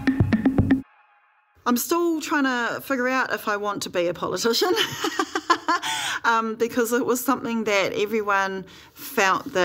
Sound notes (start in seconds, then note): 4.7 laughs